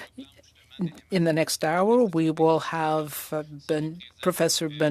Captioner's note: speaking French